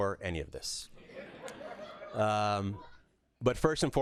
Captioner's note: laughter